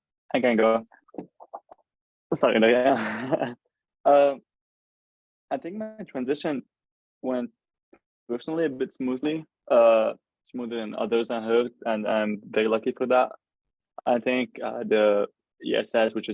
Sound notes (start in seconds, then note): 1.3 laughs